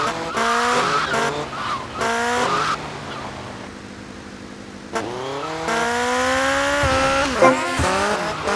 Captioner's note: engine revving